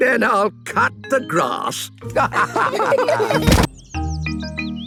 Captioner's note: laughter